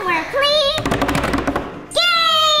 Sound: banging on table

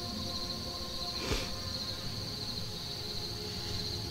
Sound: man sniffs

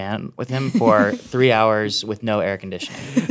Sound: laughing

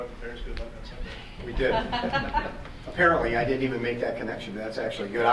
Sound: chuckles

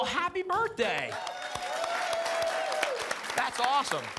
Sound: applause and cheering

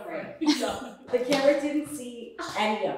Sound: chuckles

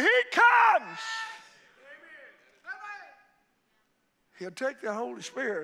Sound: congregation shouting and exclaiming

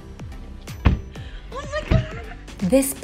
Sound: car door slams

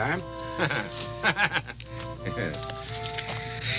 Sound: Homer laughing; light harmonic music

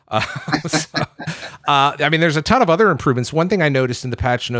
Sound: laughs

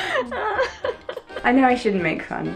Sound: laughs

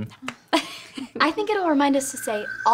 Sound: laughing

